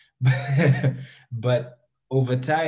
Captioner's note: chuckles